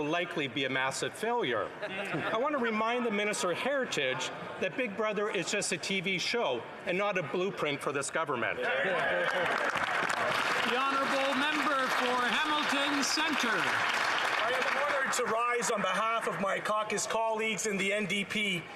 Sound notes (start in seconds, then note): 12.6 some Applause